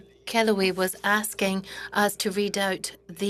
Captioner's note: speaking in French